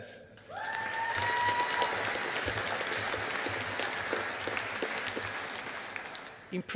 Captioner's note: audience applauding